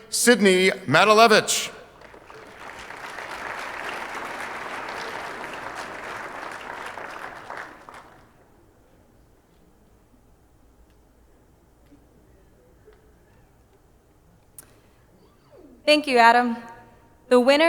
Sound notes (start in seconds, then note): 0.9 audience applauding